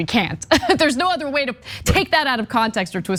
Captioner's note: laugh